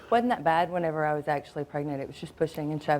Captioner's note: none